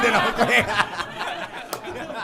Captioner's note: laughter